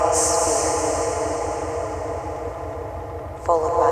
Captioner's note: pulsing & echo intensify